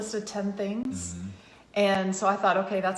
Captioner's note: assents